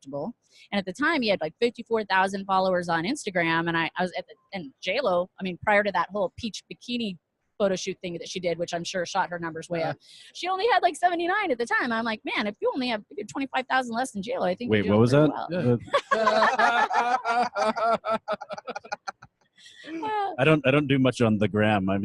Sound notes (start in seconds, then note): 16.4 laughing